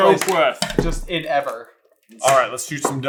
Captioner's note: accented